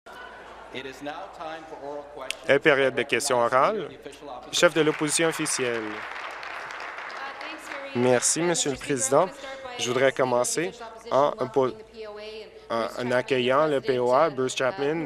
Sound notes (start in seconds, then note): 7.9 applause